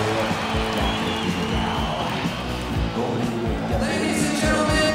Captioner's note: crowd cheering